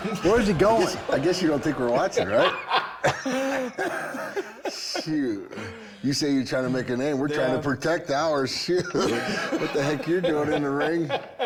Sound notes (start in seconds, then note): 0.0 laughing; 2.1 Bron laughing; 8.8 laughing; 9.9 Bron laughing